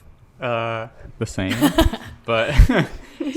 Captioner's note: laughs